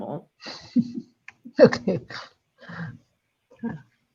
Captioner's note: chuckles